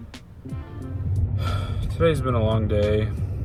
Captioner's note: sigh